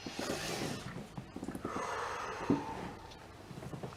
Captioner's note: heavy breathing